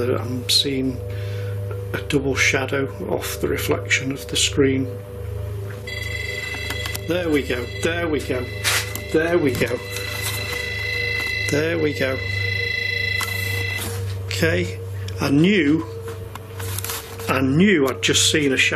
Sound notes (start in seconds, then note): 6.3 beeping